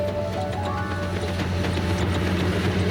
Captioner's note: sputtering of engine